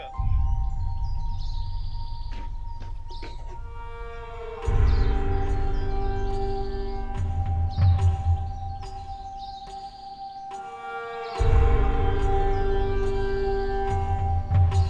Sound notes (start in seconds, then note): 0.2 slow music; 9.0 bird chirps; 12.3 slow music